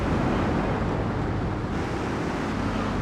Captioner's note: plane engine roaring; plane engine roaring